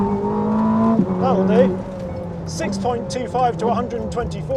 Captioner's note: engine rumbles